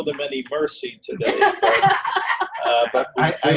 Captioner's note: laughter